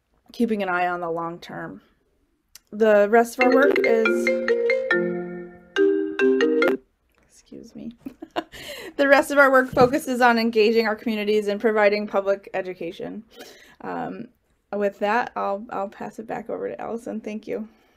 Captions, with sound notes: keeping an eye on the long term. The rest of our work is (phone ringing) Excuse me. (laughing) The rest of our work focuses on engaging our communities and providing public education. With that, I'll pass it back over to Allison, thank you.